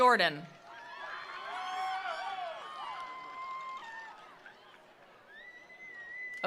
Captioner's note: attendees applauding; attendees cheering